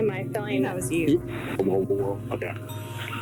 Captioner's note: recording playback